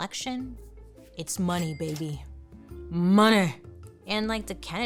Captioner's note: cash register rings